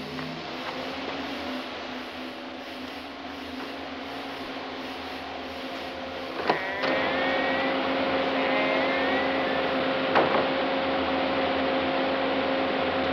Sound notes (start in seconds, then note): 6.4 door creaking; 8.1 trimming whirring